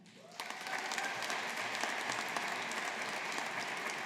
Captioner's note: audience applauding